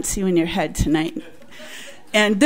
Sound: audience laughs

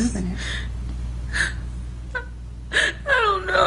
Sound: sobbing

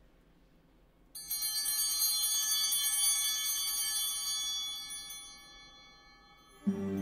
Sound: bell ringing

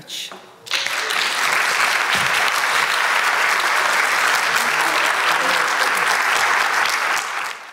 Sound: applause

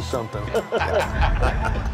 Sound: laughter

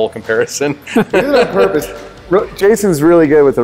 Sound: laughing

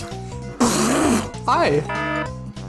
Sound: balloon deflating

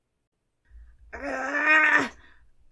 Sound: growling

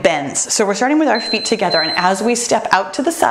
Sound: timer beeps

